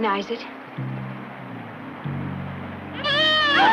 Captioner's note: animals whines